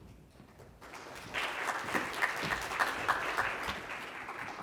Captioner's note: congregation clapping